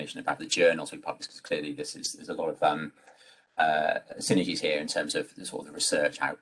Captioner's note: um uh